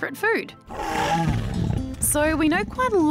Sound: growling

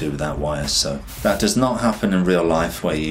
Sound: air whooshes

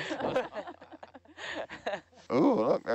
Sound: everyone laughs

